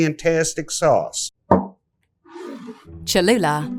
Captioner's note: bottle thuds and scrapes